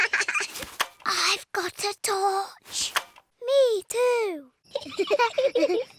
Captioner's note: whispering; both giggle